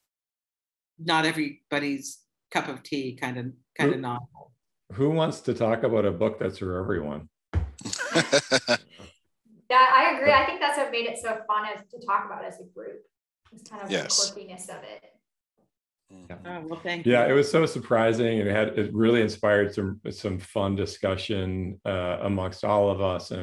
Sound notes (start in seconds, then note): 7.9 laughter